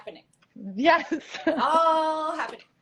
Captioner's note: laughs